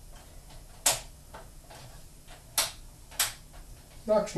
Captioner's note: lamp connectors click